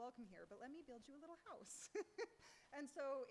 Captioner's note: laughs